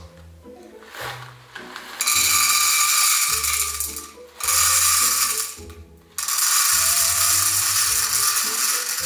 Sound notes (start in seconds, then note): 0.2 playful orchestral music; 1.8 rattling